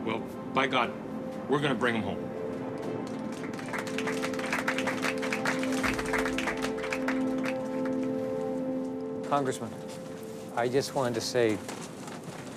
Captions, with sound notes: well by God we're gonna bring 'em home. (clapping) - Congressman, I just want to say,